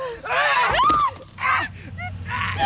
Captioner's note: screaming